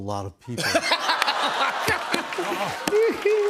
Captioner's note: laughs